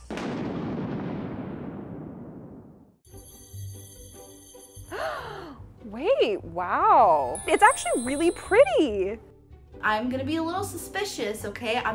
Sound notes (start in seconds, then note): 0.0 explosion; 5.0 gasps